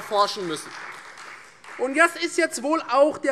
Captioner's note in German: Beifall Freie Demokraten